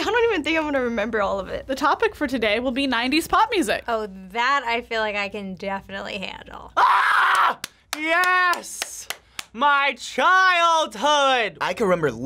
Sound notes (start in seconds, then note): 6.8 screams